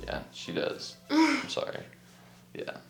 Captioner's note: laughs